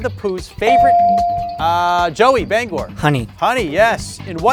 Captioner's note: bell dings